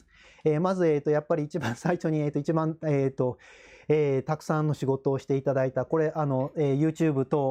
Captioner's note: laughs